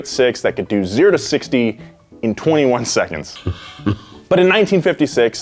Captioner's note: laughter